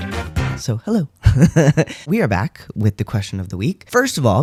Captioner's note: laugh